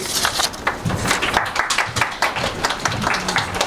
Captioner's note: applause